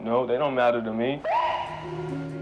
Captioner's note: police siren chirping